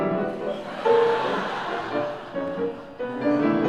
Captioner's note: laugh